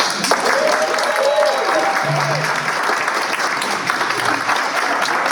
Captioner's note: cheers and applause